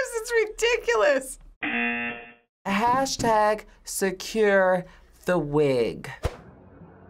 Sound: buzzer

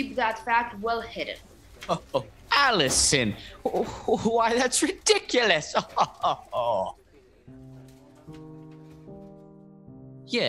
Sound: laughs

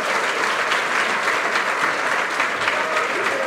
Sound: applause

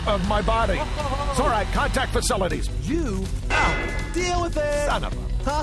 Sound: clang

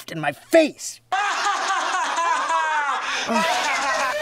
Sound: laughing

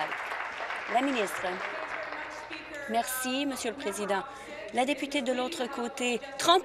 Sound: applause

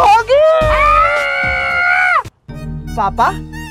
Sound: shouting

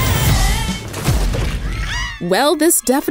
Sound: girls scream

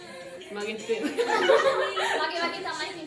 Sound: laughing

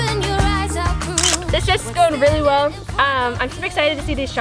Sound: camera clicking

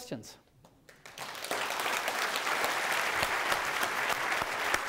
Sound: applause

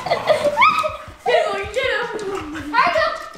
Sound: laughing

